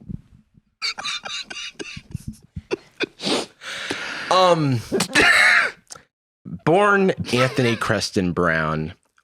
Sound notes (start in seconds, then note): 0.8 laughs; 4.9 laughs